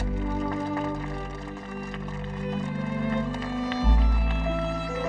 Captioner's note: audience applauding